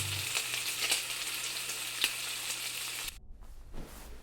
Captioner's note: bacon sizzling